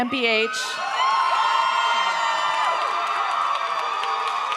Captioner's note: audience cheers